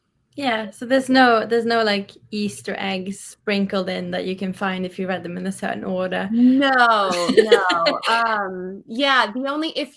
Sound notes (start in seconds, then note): 7.0 laughs